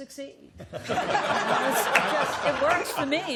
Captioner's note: laughter